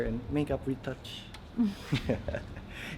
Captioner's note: chuckles